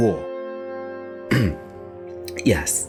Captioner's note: clears throat